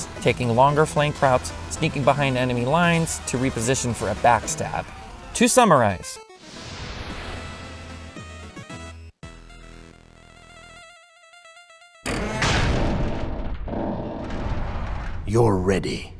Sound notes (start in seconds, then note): 12.3 clang!